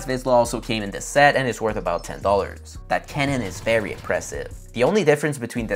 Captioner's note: sound effect